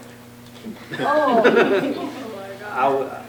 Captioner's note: group laughs